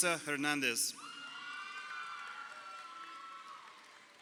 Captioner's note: crowd cheering